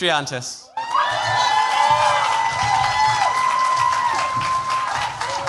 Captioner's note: cheers, applause